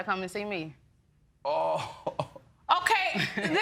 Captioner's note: laughs; audience laughing